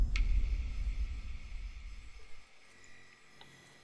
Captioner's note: water dripping